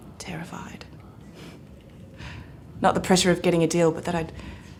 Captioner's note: none